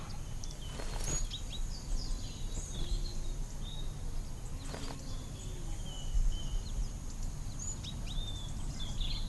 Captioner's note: birds singing